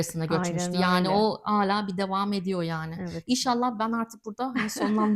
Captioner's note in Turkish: kahkaha